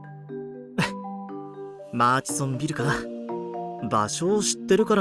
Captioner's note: sigh